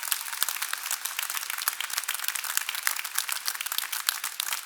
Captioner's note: cheers and applause